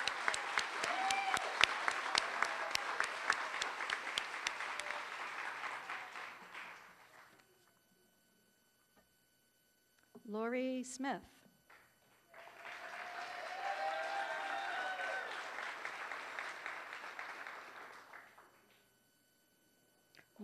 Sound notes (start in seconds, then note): 0.0 applause; 12.0 applause